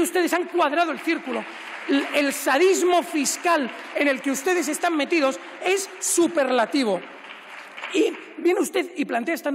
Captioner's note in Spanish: Aplausos; Aplausos